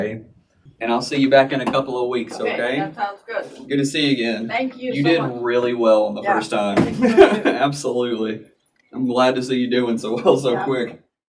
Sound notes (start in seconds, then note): 6.9 laughing